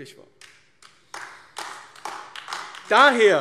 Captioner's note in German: Beifall AfD